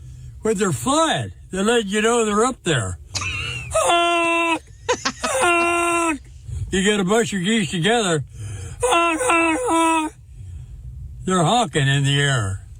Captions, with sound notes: where they're flat, they let you know they're up there. (laughing) You gotta bunch your geese together. (imitating geese) They're honking in the air.